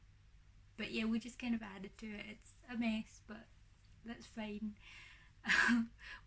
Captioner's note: laughs